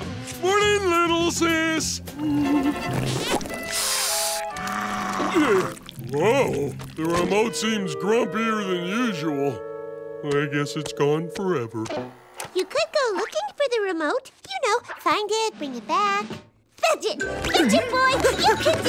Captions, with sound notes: Morning, little sis. [hissing] [growling] Whoa. The remote seems grumpier than usual. I guess it's gone forever. You could go looking for the remote. You know, find it, bring it back. Fetch it. Fetch it, boy. You can do it.